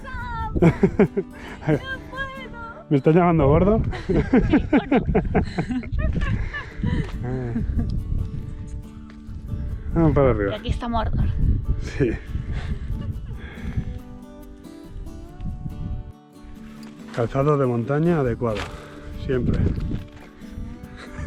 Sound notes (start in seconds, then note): 3.9 laughs; 19.5 mocking